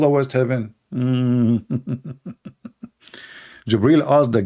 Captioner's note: Ketawa